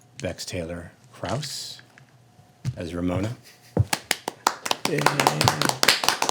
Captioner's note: applauding